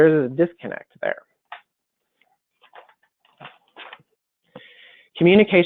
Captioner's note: silence